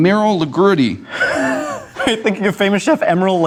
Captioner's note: laughs